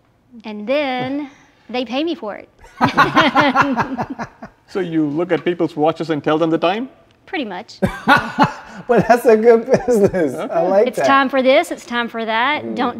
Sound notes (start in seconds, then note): 2.6 both laugh; 7.8 laughs